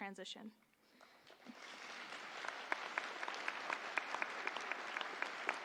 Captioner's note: audience applauding